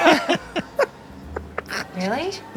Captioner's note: group laughs